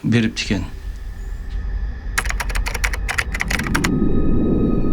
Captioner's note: keyboard clicking